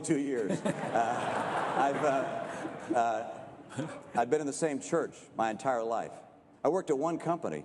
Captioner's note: laughter